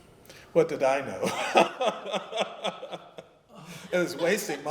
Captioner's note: laughter